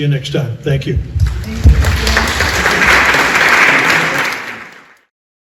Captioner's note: applause